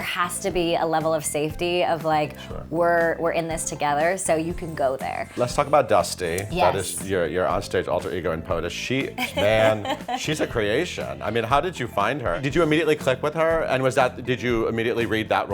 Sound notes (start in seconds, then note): 9.2 laughing